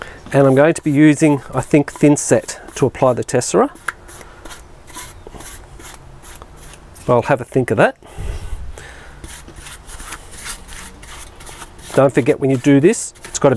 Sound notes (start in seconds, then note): 9.2 brush scraping